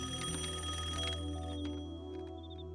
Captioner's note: rings